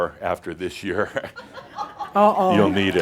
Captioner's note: some chuckles